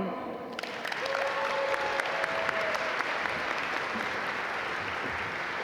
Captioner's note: audience applaud